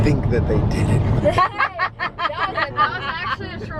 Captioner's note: laughs